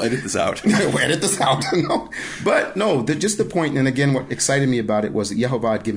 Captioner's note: laughing